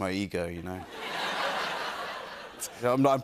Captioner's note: laughter